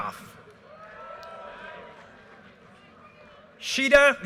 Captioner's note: audience cheers and applause